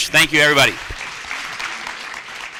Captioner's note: applause